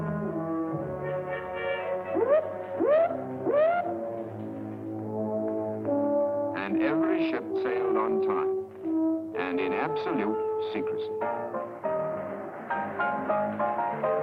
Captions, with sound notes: [machine whooping] And every ship sailed on time... ...and in absolute secrecy. [upbeat piano music]